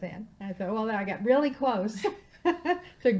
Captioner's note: laughing